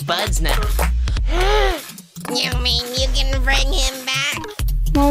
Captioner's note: gasp